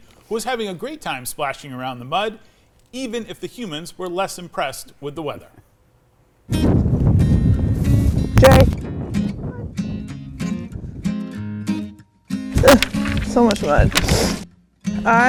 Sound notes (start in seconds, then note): 6.5 lighthearted music; 6.5 wind whooshing; 14.0 sniffs